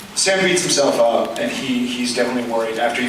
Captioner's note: none